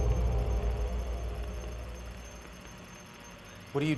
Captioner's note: static buzzing